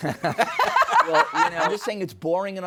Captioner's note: laughing